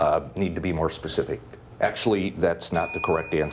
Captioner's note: bell ringing